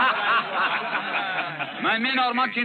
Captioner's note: laughter